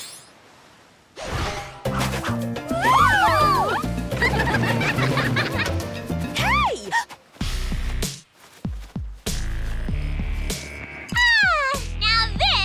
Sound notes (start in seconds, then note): 1.7 the spies laugh